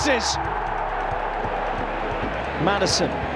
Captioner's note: crowd erupts